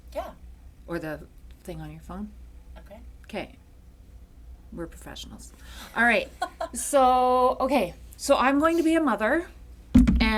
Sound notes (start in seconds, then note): 6.4 chuckles